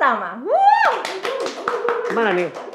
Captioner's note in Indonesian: tepuk tangan